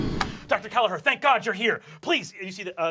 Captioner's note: normal voice